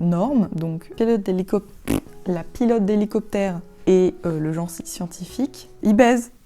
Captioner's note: prrt